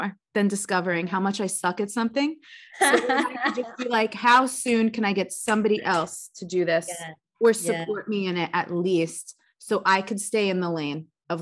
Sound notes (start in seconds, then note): 2.7 chuckles